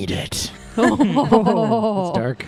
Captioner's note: laugh